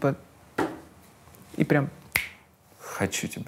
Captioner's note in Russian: щёлкает пальцами